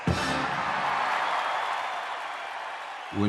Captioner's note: cheers and applause